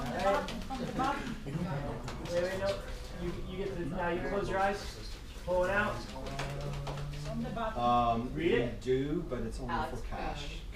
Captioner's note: people clapping